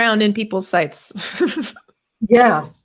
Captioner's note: laughs